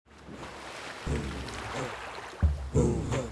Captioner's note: water bubbling